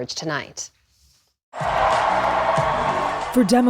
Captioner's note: cheering